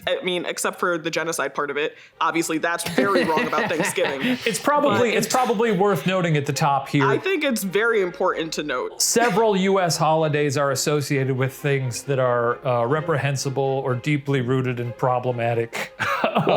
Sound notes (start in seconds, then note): 2.8 laughing